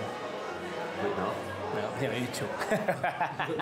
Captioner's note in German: lacht